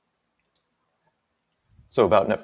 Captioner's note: mouse clicking